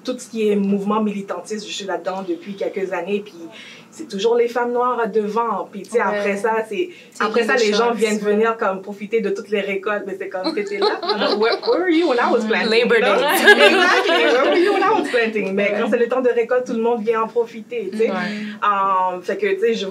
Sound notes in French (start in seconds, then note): 14.8 rires